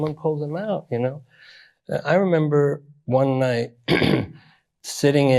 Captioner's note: clears throat